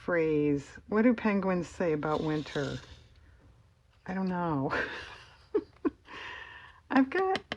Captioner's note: laughs